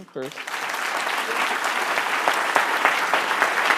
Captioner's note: applause